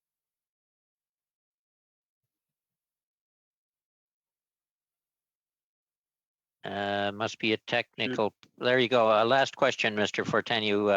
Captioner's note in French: voix de l'interprète